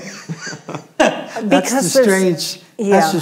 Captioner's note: laughing